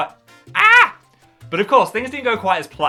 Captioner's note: yelping